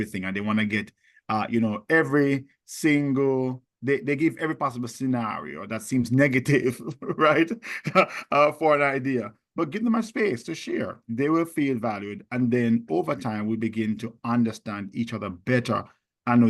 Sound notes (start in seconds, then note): 6.7 laughs